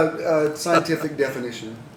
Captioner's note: laughter